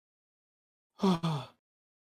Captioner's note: tired gasp